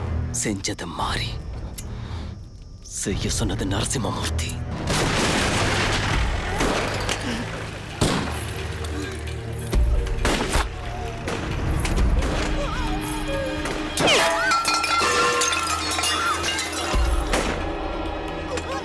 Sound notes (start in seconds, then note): 4.7 Jeep hitting; 8.0 gun shots; 14.6 vessels rolling